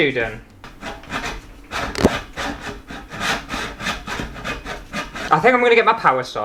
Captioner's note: saw Sounds